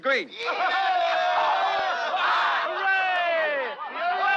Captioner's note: all cheering